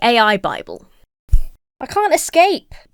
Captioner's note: hand thuds